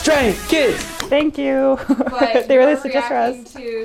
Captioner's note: laughs